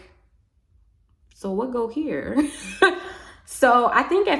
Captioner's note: laughs